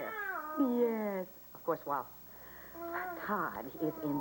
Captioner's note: starr cries